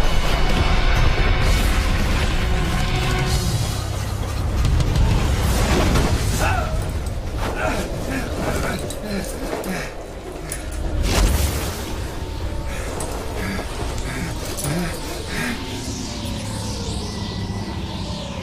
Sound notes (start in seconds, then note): 6.3 yells; 9.0 gasping, panting; 11.8 panicked breathing